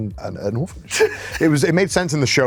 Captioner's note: laughs